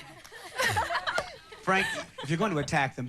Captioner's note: laughing